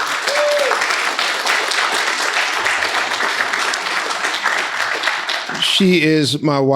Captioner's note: crowd cheering